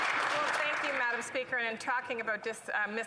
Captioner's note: applause